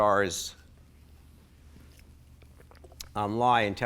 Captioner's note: gulps water